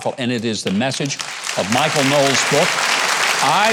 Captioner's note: audience applauding